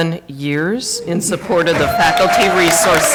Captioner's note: applause